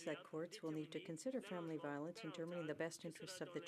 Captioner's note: speaking French